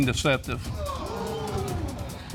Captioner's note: audience gasps